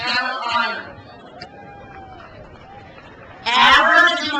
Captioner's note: crowd cheers